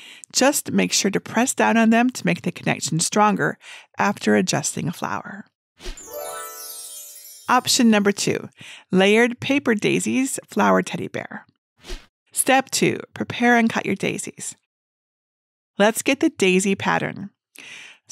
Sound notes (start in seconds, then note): 6.0 chimes ringing